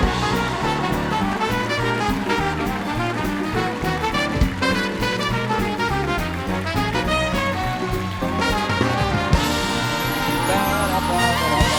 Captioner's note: cheers and applause